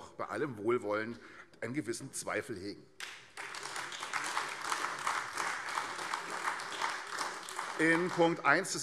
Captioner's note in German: Beifall AfD